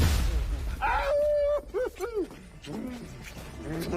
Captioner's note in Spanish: Exclamaciones